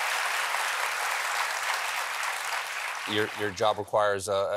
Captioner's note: applause